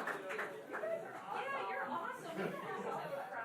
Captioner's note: laughing